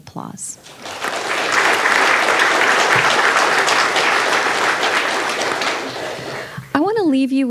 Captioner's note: audience applauding